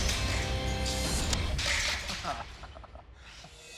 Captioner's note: chuckles